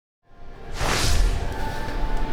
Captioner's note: swoosh